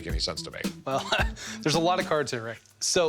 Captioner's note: laughs